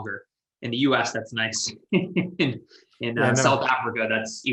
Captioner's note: laughs